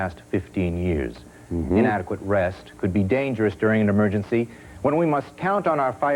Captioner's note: mm-hmm